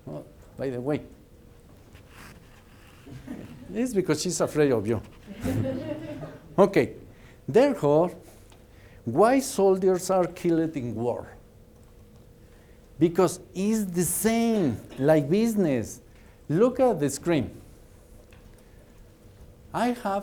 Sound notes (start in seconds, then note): 5.3 laughter